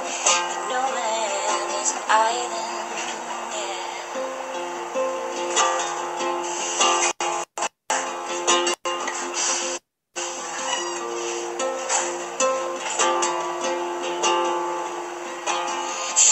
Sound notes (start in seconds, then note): 5.3 guitar only; 10.6 door opening in background; 11.9 guitar only